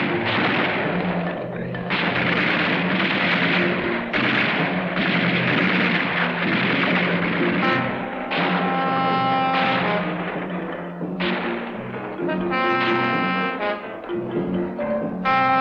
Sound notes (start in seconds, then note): 11.7 gunfire continues